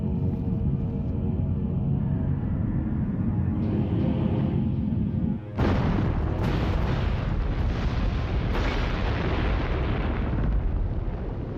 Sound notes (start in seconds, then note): 5.5 explosion booms